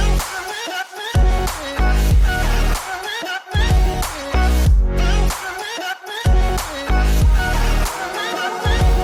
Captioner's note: drone flying sounds